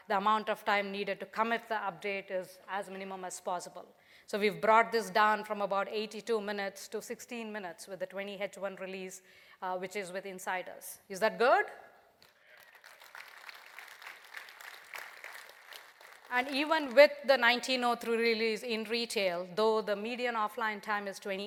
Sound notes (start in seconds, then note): 12.2 applause